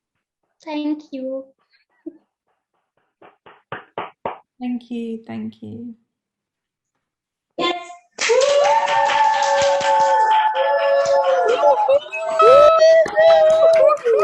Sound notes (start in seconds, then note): 0.0 applause noise; 8.2 loud applause noice and cheers